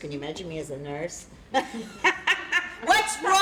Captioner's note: laughter